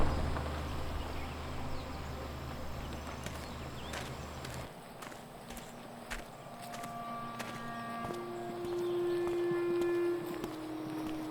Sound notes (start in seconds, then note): 1.0 birds chirping; 6.6 slow music